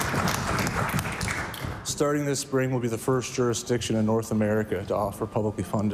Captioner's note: applause